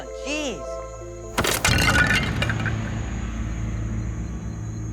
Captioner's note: clay breaking